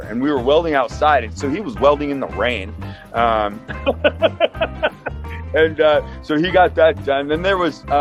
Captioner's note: laughs